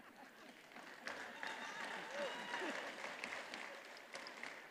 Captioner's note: attendees applauding